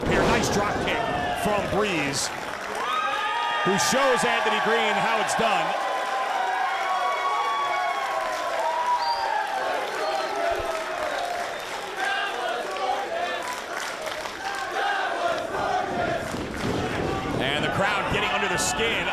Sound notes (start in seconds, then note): 10.3 applause